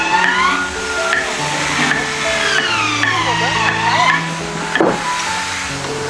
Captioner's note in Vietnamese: la hét